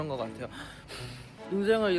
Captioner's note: exhale